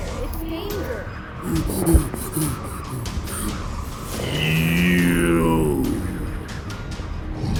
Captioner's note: panting